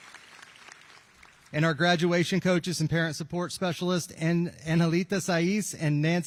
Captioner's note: applause